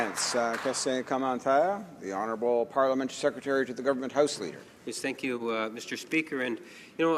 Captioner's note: some applause